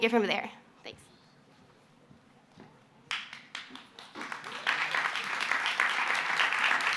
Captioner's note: applause